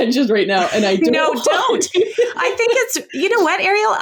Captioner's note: laughs